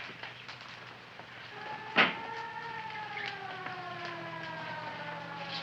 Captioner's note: siren wailing